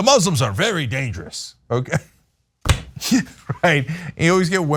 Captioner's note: laugh